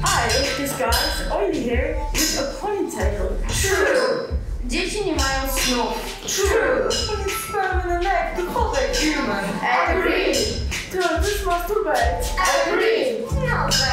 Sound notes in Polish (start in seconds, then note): 4.9 Po polsku; 7.6 Po angielsku